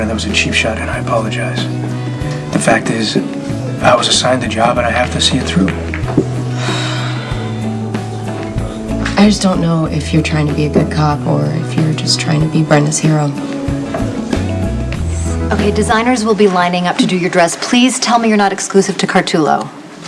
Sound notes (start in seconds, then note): 6.2 sighs